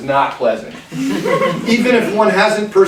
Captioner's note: class laughing